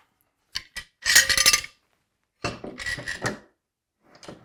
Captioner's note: metal clattering